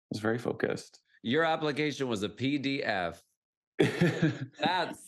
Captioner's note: laughs